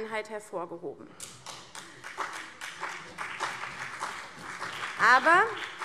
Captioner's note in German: Vereinzelter Beifall CDU, BÜNDNIS 90/DIE GRÜNEN und Freie Demokraten